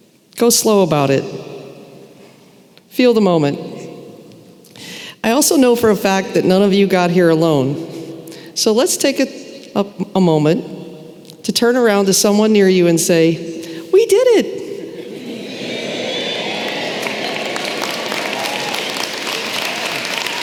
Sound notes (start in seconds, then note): 17.3 applause